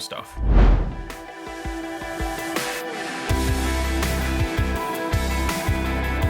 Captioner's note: upbeat scenic music; whooshing